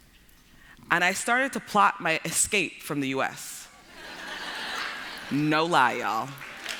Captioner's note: laughter; applause